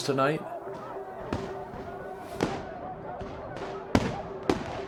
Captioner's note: fireworks popping